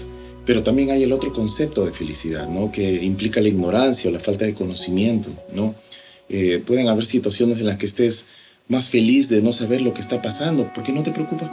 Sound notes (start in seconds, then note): none